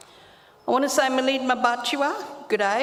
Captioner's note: speaks native language